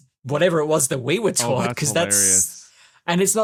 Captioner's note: laughs